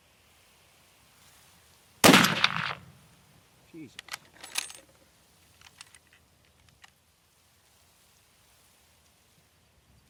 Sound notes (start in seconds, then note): 2.0 rifle blasts; 4.4 bullets clanking